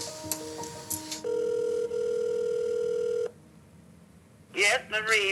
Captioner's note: phone ringing